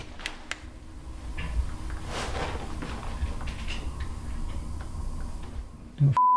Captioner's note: footsteps